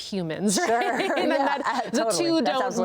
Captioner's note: both laugh